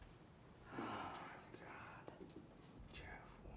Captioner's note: gasps